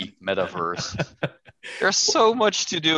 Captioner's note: laughter